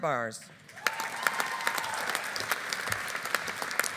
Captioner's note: audience applauding